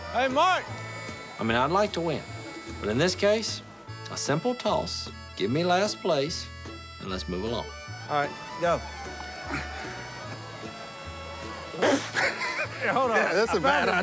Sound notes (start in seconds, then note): 9.3 grunt; 11.8 laughter